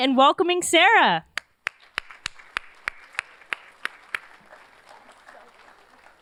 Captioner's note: applause